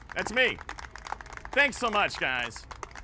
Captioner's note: applause